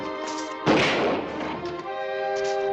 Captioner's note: gun fires